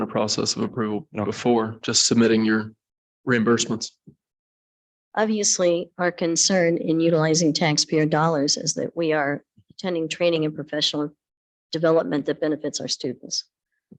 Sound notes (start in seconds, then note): none